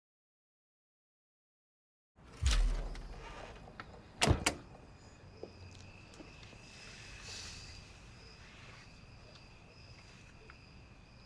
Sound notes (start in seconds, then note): 4.3 door closes; 6.6 insects chirping